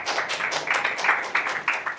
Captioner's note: applause